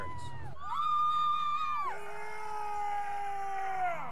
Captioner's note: cheering